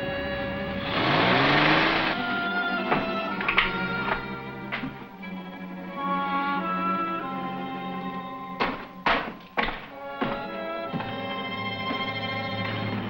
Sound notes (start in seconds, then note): 0.6 engine revs; 2.9 suspenseful music